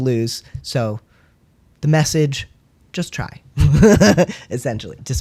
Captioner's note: laugh